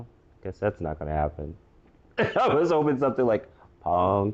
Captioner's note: laugh